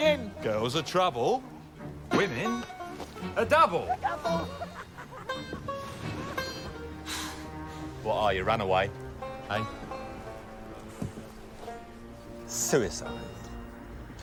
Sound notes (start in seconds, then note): 6.9 sighs